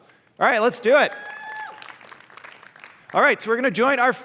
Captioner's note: applause